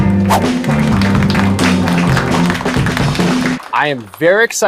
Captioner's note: applause